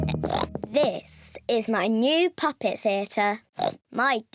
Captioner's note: oinks